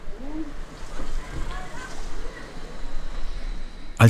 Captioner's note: quiet babble